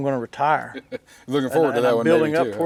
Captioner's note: laughs